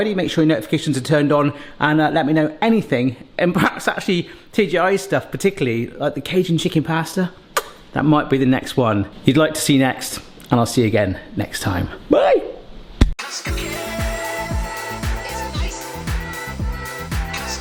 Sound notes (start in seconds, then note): 7.6 smacks